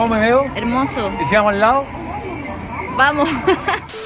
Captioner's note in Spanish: ríe